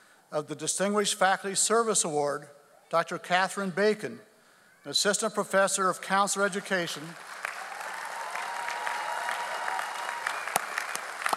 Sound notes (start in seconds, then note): 6.4 audience applauds